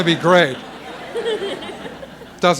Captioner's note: laughter